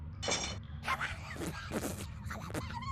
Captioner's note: sputtering